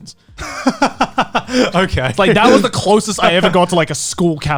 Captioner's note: laughs